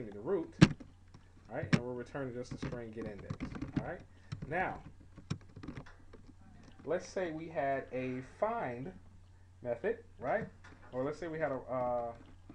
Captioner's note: typing sounds